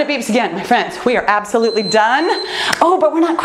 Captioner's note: timer beeps